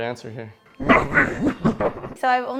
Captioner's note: demon laugh